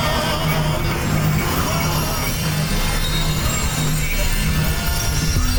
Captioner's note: digitized shards of audible light